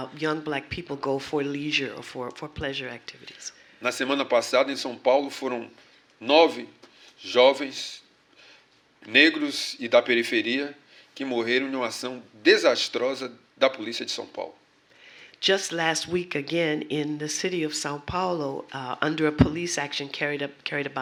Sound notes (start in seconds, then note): 9.1 speaking portuguese